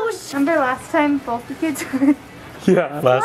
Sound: laughing

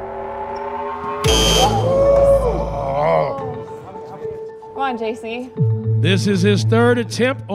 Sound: crowd chatter; buzz sound

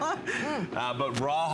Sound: laughter

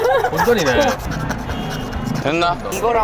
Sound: scratching

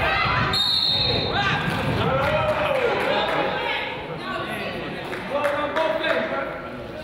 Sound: whistle blows; crowd applauds

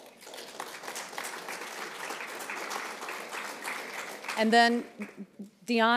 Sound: applauds

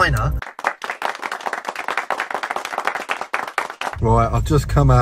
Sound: people applauding

